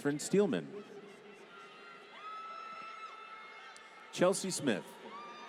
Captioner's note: applause